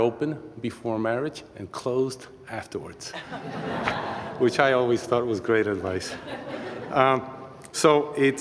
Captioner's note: laughter